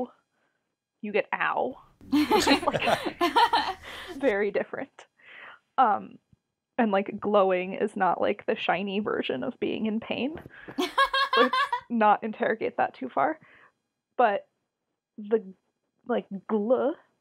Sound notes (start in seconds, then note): 2.0 laugh; 10.7 laughs